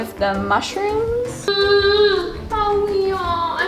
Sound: cooing

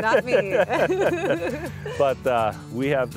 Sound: both laughing

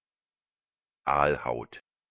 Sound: fast Pronunciation

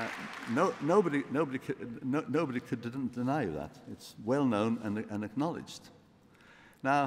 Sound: applause

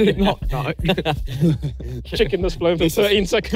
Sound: everyone laughing

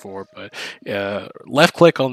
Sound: Obama impression

